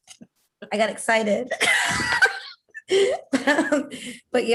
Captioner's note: laughter